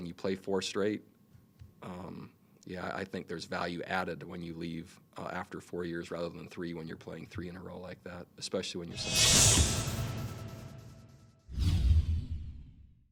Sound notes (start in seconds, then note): 8.9 shing; 11.3 whoosh